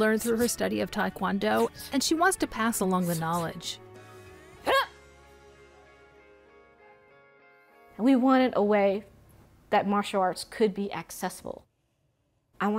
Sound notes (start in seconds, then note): 4.6 yelling